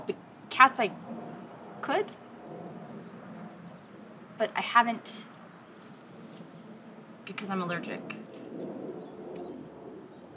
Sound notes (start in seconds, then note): 7.1 down tone